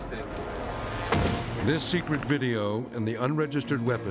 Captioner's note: car door shuts